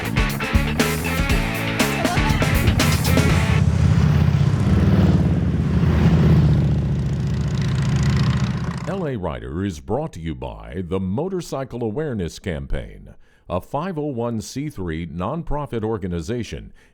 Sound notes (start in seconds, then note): 0.0 upbeat rock music ending; 4.3 motorcycle engine roaring